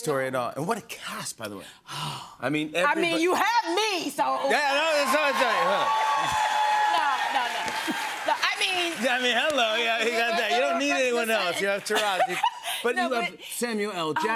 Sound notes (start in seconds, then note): 4.5 cheers and applause